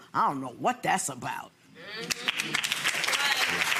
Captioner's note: applauding